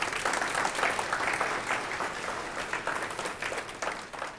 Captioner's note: audience applauding